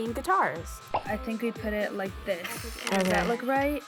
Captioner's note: video popping